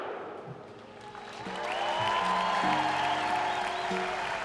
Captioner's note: crowd cheering